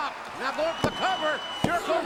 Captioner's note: hand pounding